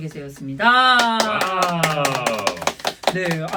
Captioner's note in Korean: 박수